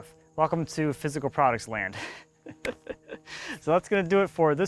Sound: laughs

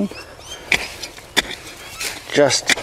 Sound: hoe clangs

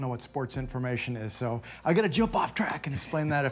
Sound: laughs

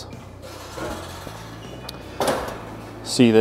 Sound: grill lid creaking

